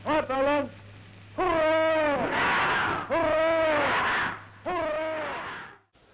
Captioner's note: cheers